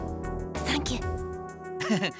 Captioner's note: whisper; chuckle